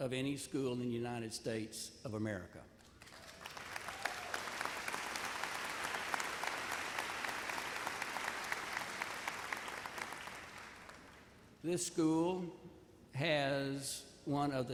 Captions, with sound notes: of any school in United States of America. (audience cheers and applauds) This school has one of the top five